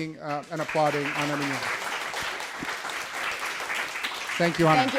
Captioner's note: audience applauds